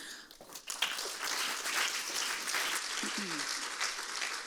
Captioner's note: audience applauds